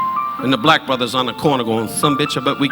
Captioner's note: blowing